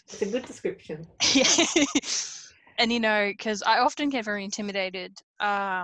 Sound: laughs

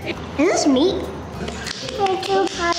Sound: clapping

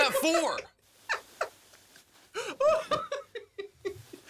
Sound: Rick laughing

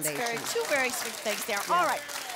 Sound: applause

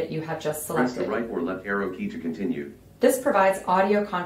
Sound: voiceover

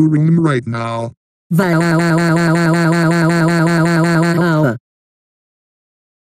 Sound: cries

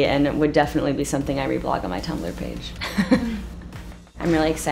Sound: laughs

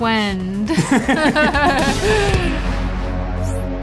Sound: laughter

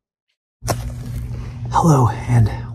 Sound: match striking

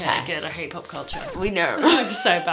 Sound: record scratch

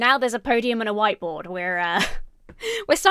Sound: laughs

